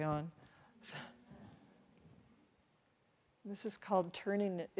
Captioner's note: chuckles